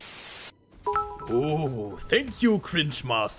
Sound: donation sound

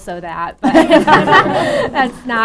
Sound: laugher

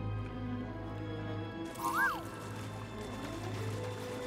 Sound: excited whistle

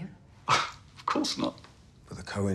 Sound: scoffs

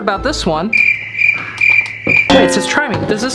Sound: owl sound

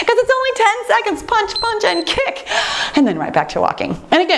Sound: timer beeps

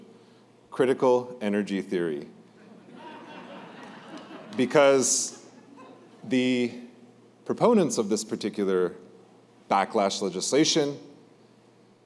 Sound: laughter

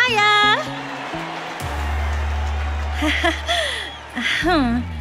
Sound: audience applauding

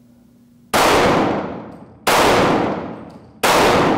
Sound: gunshots

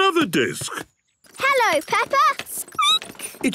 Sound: squeaking

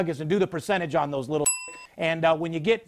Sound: dinging

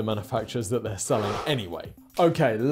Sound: screen wipe whooshes

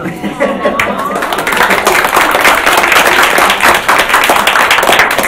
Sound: audience laughs; audience claps

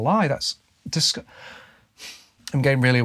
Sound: heavy sigh

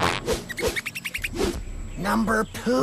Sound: Sniffles Squeaking

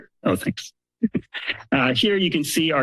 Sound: laughs

